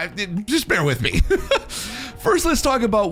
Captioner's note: laughs